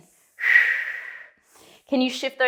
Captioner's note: breathing sharply